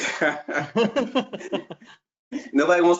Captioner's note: laughing